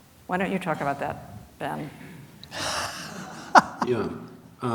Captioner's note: laughs